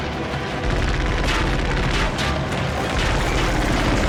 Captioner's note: gunfire, ricochets